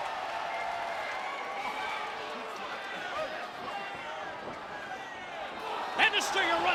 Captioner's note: crowd cheering